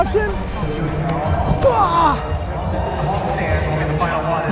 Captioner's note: grunts